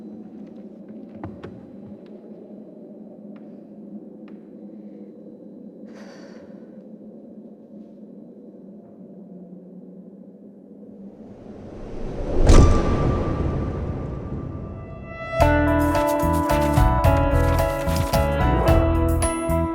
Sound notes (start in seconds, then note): 5.8 shaky breath; 11.4 thud